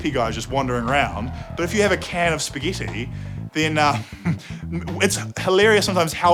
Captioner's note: chuckles